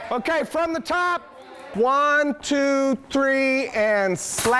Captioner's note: shouting